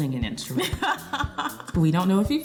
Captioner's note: laughing